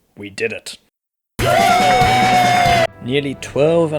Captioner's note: celebratory noises